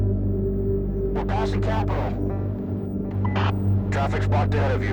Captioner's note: officer On Radio